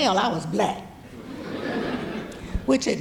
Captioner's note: audience laughing